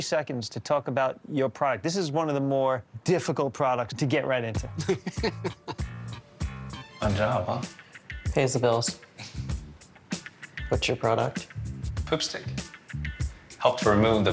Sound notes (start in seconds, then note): 4.6 laughs; 5.7 calm upbeat music